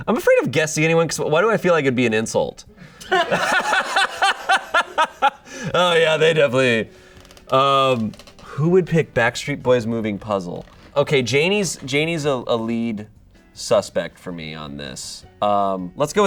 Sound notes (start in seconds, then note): 3.0 audience laughing